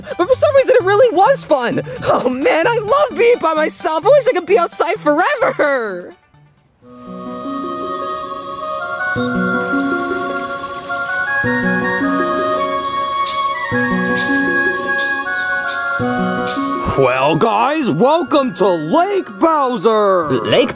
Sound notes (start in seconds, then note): 5.8 calm harmonious music; 7.1 animals chirping